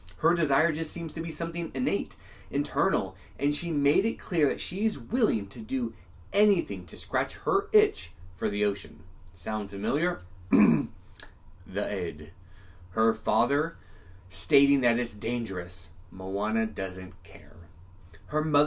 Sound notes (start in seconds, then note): 10.5 cough